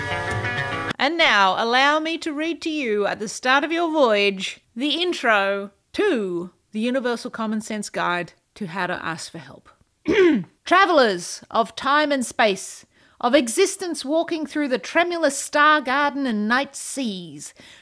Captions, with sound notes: And now, allow me to read to you at the start of your voyage, the intro to the Universal Common Sense Guide to how to ask for help. [Clears throat] Travelers of Time and Space Of Existence Walking through the Tremulous Star Garden and Night Seas.